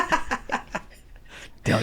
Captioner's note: laughing